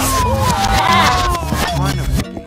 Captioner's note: bleats